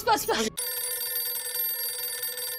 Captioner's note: mobile phone ringing